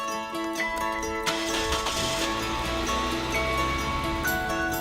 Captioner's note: car engine starts